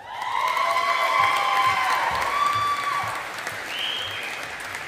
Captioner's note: audience applauding